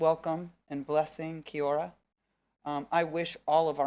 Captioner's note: speaking foreign language